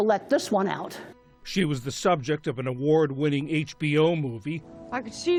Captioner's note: voice-over